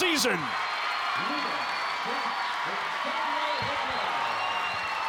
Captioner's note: crowd cheering continues